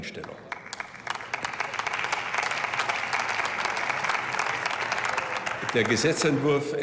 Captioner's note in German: Beifall